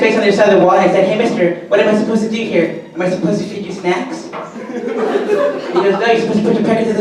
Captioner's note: audience laughter